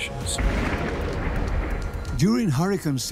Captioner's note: thunderclap